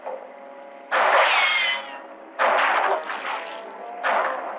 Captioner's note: gunshots